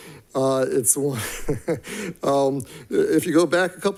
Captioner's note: chuckles